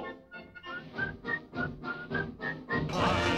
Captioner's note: whistling